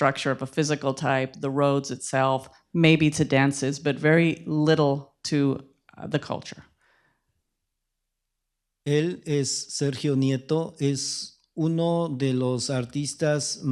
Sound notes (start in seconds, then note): 10.1 speaking spanish